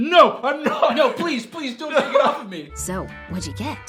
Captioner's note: laughs